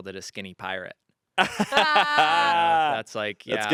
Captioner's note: group laughing